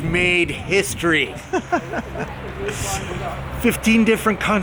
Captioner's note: laughing